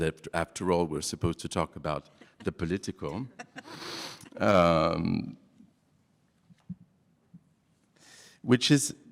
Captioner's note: laughs